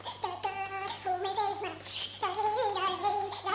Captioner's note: humming